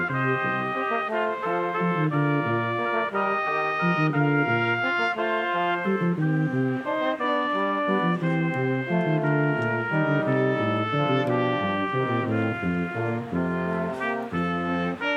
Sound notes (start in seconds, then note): 4.5 crowd chattering; 4.5 triumphant music continues